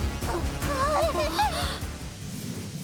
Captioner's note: sounds of the maids’ bewildered voice